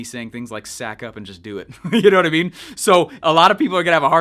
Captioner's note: laughs